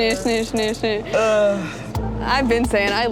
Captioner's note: groaning